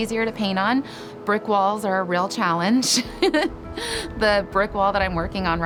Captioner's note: laughs